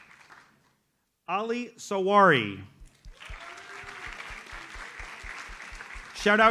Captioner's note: audience applauds